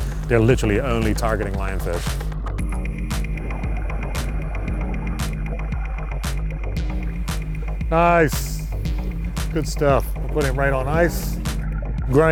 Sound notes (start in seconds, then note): 2.6 bright music playing; 2.6 water bubbling